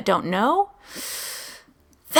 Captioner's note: inhale